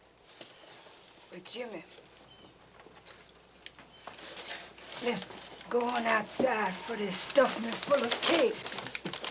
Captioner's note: paper rustling